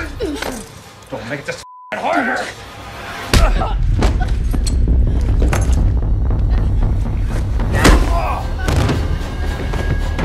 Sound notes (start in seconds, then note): 1.6 beeping